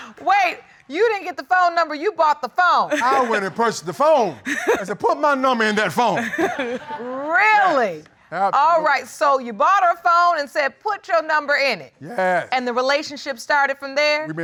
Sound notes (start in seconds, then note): 6.2 battle continues laughing